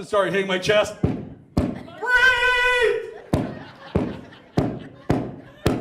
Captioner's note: mic thuds